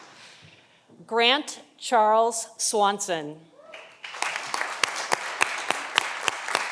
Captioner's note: audience applauding